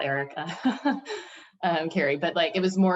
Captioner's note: chuckles